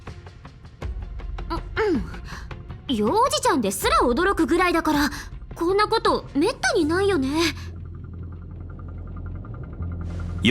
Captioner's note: sigh